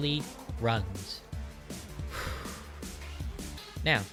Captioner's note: sigh of thinking and deep recollection